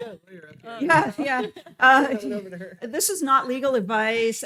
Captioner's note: laughs